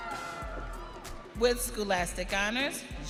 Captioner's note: audience cheering